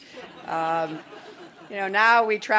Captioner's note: laughter